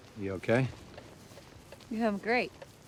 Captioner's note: footstep